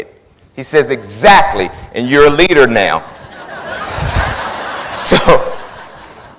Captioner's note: laughing